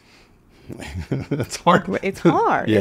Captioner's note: laughs